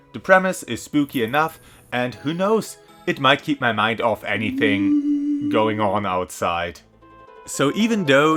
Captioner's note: moaning